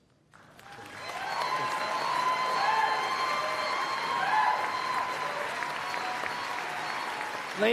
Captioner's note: applause